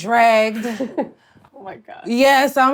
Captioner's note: laughs